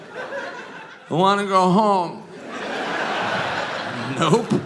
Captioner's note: audience laughing